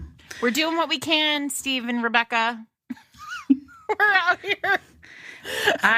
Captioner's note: laughter